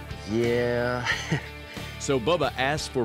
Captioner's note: chuckles